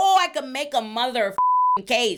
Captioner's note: beep